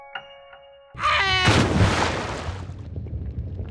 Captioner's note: Gaylord_Steambath screams